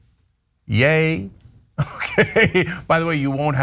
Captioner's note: laugh